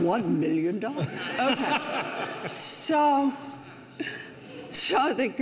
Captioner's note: audience laughs; laughs